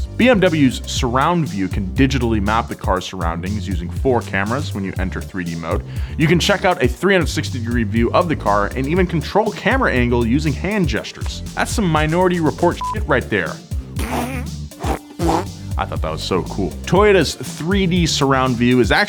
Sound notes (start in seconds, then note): 12.8 beeps; 14.1 whooshing